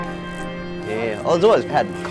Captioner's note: murmuring